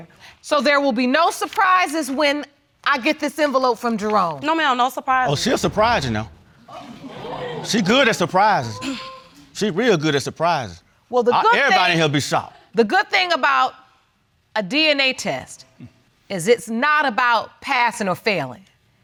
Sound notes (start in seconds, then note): 6.6 audience exclaims